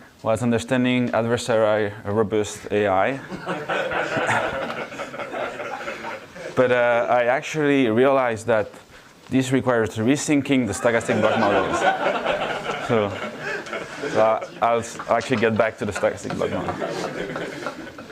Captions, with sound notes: was understanding adversary robust AI. (audience laughs) But I actually realized that this requires re-thinking the stochastic block models. So I'll s-- I'll actually get back to the stochastic block model.